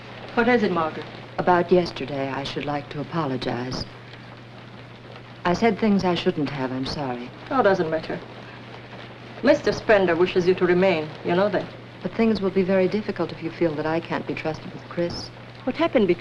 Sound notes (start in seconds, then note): none